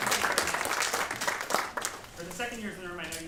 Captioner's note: applause